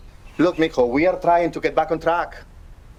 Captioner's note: speaking in foreign language